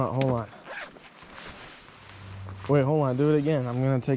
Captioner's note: zipper zipping